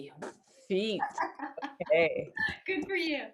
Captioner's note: laughs